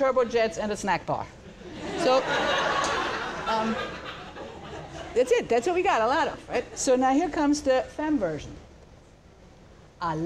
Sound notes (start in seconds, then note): 1.4 laughter